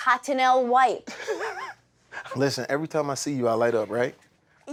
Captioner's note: laughs